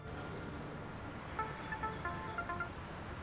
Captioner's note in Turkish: Telefon zili